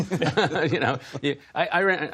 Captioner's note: laughter